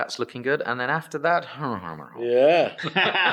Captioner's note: speaks gibberish; everyone laughs